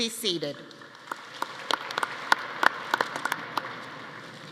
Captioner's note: audience applauding